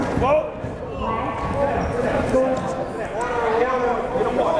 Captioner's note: chattering